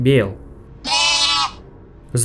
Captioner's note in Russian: Бе-е-е-е!